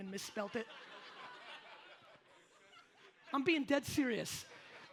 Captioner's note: audience laughs